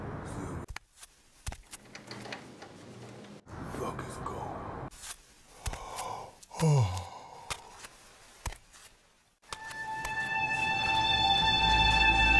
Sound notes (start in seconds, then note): 0.8 footsteps; 5.6 yawn